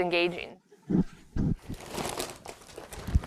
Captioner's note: bull calf whuffs